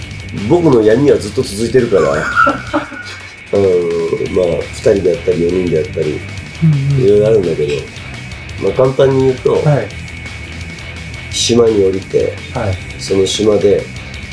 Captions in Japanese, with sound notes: 僕の闇はずっと 続いているから。 [笑い声] うーん。まあ・・・２人で やったり、４人でやったり、 色々あるんだけれど。 まあ、簡単に言うと、 はい。 島に降りて、 はい。 その島で、